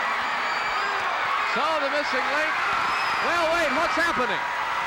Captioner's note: audience cheering